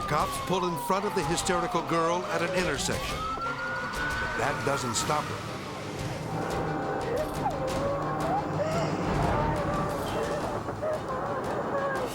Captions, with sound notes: The cops pull in front of the hysterical girl at an intersection. (sirens blaring) That doesn't stop her. (driver sobbing) (dramatic music)